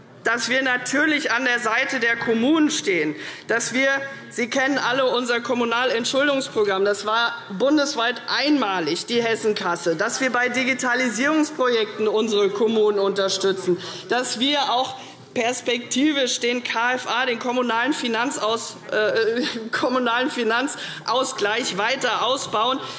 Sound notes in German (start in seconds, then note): none